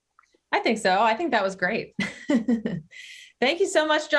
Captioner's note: laughs